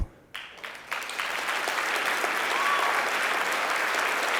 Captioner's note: applause